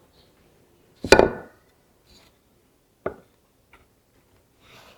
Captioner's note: blocks thud